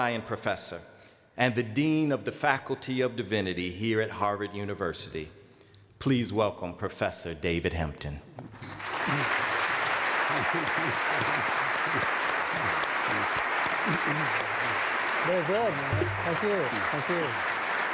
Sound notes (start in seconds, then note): 8.6 applause